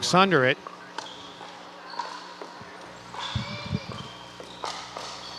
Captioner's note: ball bouncing